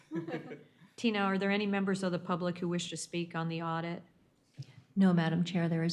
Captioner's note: laughter